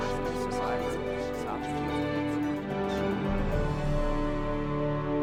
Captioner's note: people chattering; gentle instrumental music